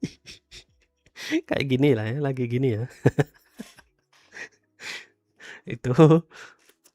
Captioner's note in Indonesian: tertawa; terkesiap